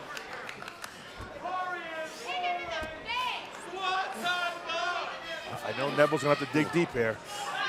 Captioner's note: crowd chatter